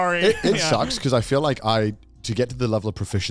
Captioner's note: men laugh